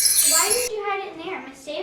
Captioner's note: crystal chiming